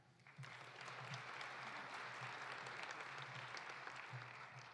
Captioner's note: audience applauding